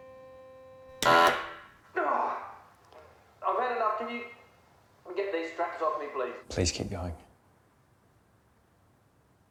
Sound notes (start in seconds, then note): 0.0 machine blaring; 2.0 grunting